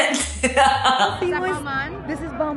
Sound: laughs

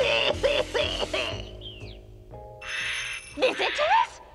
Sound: doorbell rings

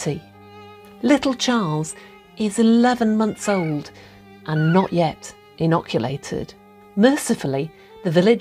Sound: gurgling baby

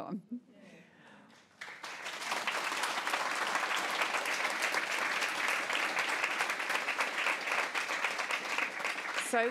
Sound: applause

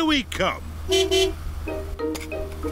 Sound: honks horn

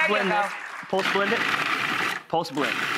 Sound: blender pulsing

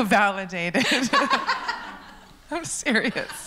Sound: laughs

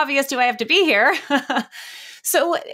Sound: laughs

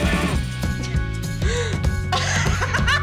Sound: laughing

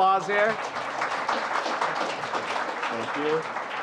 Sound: applause

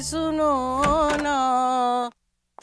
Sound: singing; door opens

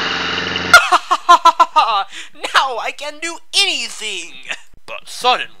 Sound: laughter

